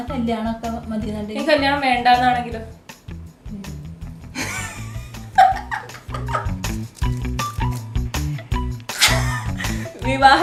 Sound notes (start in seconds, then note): 4.4 awkward laughter; 8.9 gleeful laugh